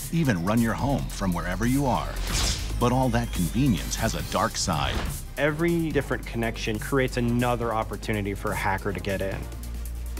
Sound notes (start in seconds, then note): 1.9 air whooshing